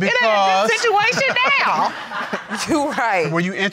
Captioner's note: laughs; crowd laughing